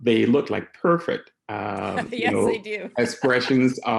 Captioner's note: laughing